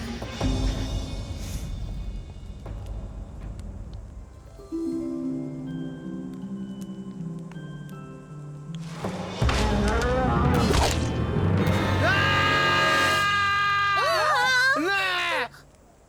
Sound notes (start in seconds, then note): 10.1 roaring; 11.6 screaming